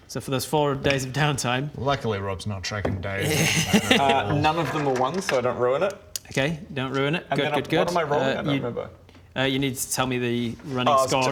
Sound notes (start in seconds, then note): 3.2 supervillain laugh